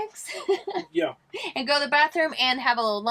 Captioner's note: laughing